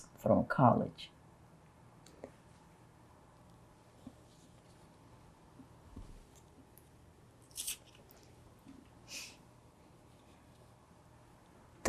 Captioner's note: pauses 10 seconds